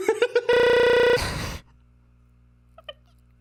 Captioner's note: laughs; laughs, glitches